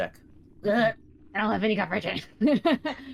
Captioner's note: groans